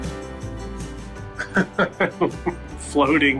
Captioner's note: laughing